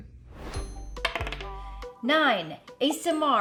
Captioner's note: bright cheerful music; die clacks